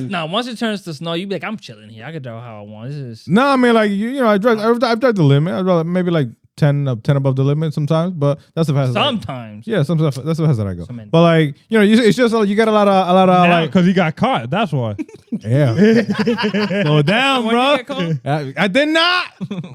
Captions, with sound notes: No, once it turns to snow, you be like, I'm chilling here. I could know how I want this. No, I mean, I drive the limit. Maybe like 10 above the limit sometimes, but that's the-- Sometimes. Yeah, that's the reason I go. But like, you know, it's just you got a lot of-- Because you got caught. That's why. Yeah. (Laughter) Slow down, bro. I did not.